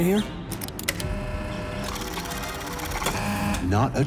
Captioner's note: machinery activates